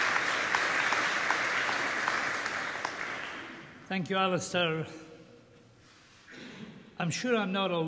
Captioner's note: applause